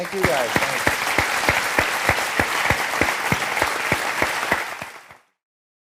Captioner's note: applause